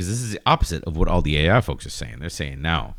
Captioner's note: uh